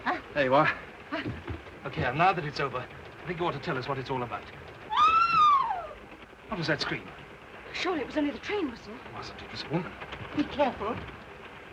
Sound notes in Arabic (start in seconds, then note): 4.9 صرخة امرأة; 11.5 صوت خشخشة القطار